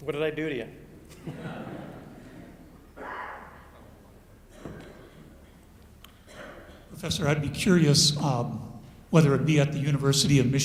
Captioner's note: chuckles